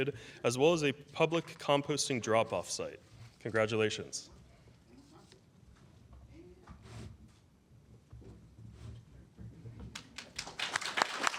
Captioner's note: applause